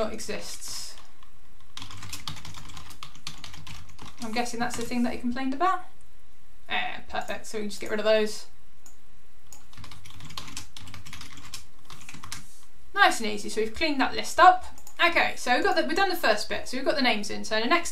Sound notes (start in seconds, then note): 1.7 keyboard clicking; 9.5 keyboard clicking